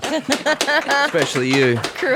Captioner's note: all laughing